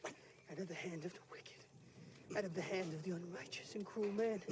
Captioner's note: dying gasps